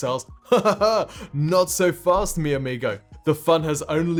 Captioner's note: chuckles